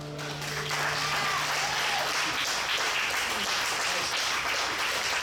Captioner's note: audience applauds and cheers